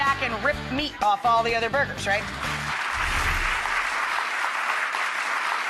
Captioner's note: applause